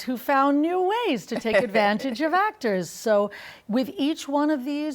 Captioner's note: laughs